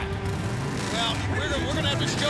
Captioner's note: motorcycles revving